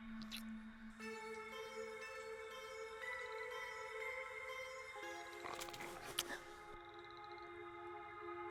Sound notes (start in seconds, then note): 0.0 eerie music; 5.4 snarling